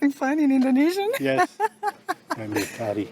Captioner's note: laughs